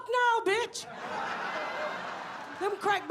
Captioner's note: audience laughs